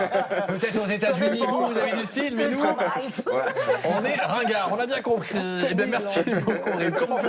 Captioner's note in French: rires